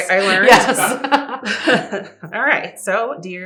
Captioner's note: laughter